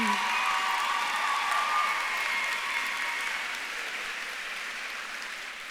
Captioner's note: audience claps and cheers